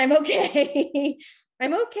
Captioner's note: chuckles